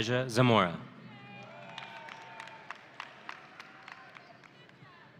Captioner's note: audience cheering